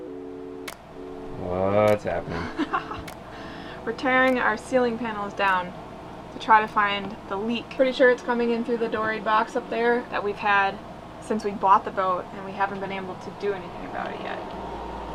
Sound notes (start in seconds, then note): 2.0 chuckles